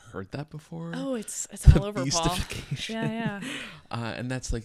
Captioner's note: laughs